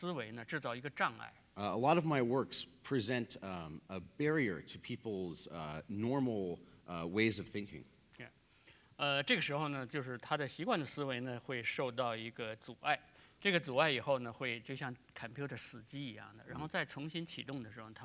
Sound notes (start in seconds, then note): 9.1 speaking in Chinese